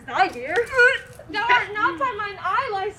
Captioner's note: retching